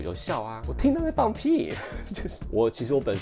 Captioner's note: laughs